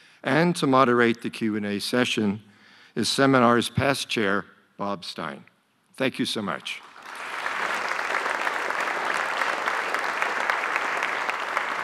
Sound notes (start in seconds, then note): 6.8 audience applauding